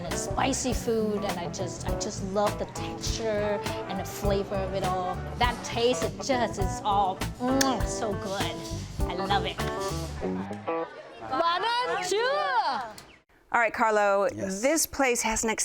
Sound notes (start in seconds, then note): 7.5 kisses; 11.5 employees shout in foreign language